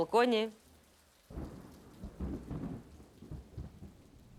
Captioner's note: loud rumbling